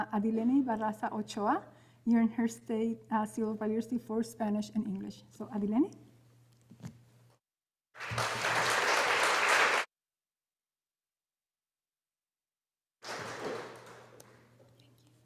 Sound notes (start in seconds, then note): 7.9 audience applauding